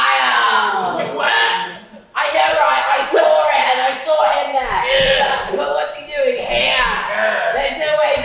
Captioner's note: general noises of disgust